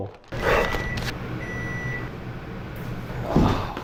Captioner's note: microwave beeping